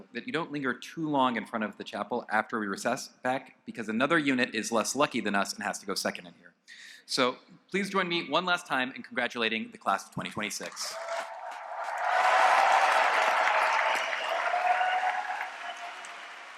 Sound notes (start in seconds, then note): 10.7 applause and cheering